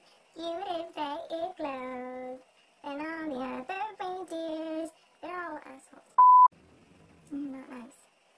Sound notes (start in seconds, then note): 0.1 sings; 6.2 beep